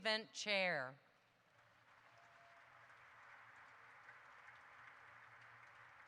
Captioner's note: audience applauds